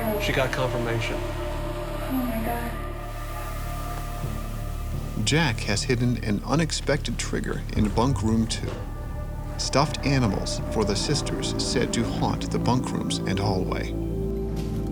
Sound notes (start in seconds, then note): 4.9 voiceover